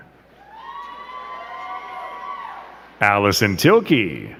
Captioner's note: crowd cheering